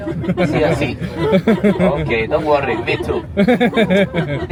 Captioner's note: guests laughing; laughing